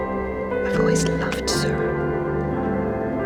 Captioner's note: voiceover